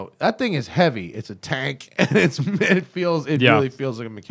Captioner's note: laughter